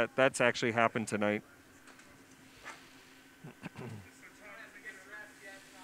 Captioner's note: pause